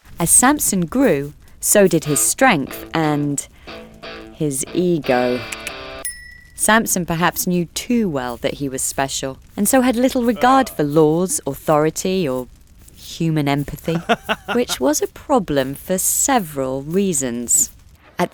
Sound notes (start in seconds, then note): 2.0 rock guitar playing; 5.4 tongue click; 6.0 bell dings